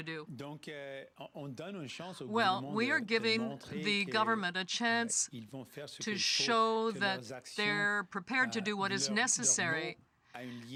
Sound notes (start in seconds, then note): 5.8 speaking French